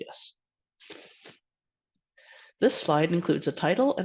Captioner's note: sniffling